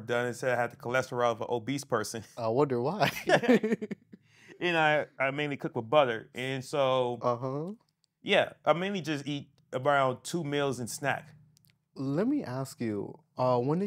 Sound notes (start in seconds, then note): 3.0 laughing